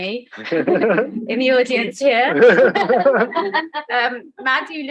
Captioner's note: crowd laughing